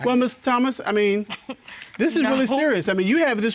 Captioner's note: scoffs